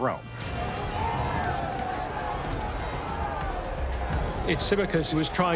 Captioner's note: shouting